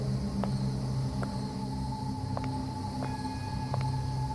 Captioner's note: suspenseful music; insects chirping; suspenseful music